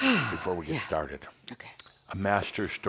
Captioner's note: exhales audibly